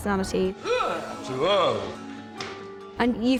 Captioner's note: shuddering